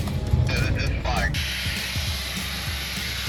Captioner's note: air hissing